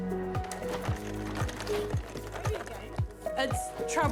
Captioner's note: gift rattles